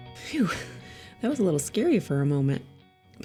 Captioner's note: chuckles